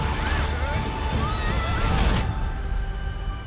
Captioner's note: screaming; gentle music